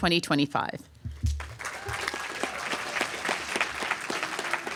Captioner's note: applause